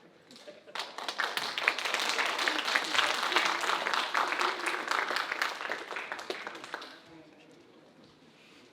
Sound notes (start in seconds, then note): 0.7 audience applauding